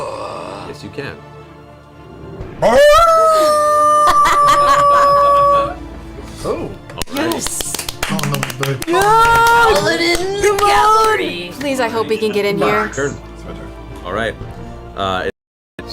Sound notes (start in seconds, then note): 4.9 howls